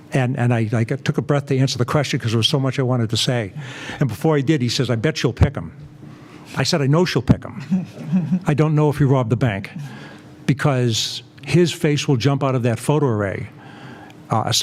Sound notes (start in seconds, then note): 7.6 laugh